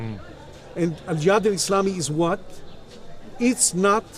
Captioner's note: speaking in Arabic